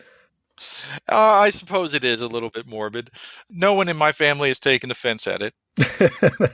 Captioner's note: laughs